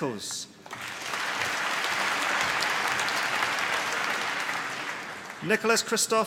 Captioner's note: applause